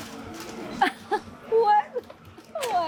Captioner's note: laughs